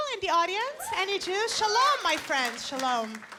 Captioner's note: people whooping